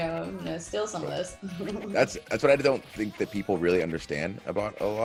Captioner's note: laugh